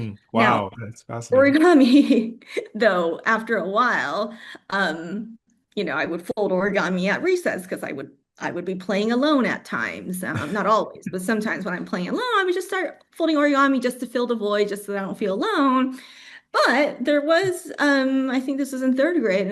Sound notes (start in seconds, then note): 0.3 laughs; 10.3 laughs